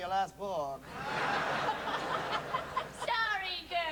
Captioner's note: laughter